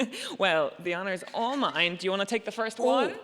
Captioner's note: laughs